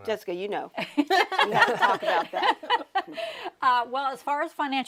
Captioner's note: panelists laughing